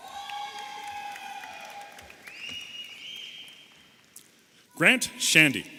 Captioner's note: audience applauding and cheering